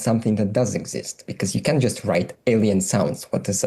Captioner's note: alien sounds